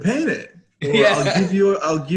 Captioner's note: chuckles